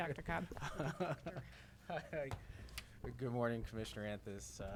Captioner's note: laughs